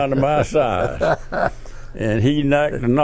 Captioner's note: laughs